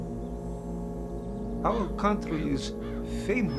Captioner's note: bird cawing